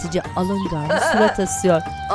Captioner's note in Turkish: Meryem gülme sesi